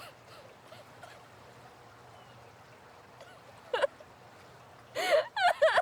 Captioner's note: Abby cries; water burbles